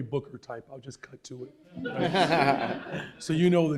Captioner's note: laughter